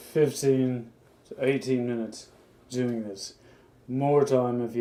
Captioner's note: none